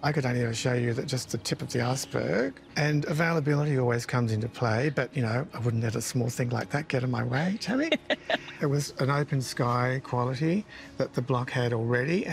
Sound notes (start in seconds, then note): 7.4 chuckles